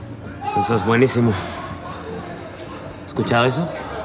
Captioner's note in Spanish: susurros